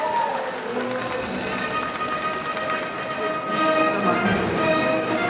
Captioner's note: audience cheering; audience applauding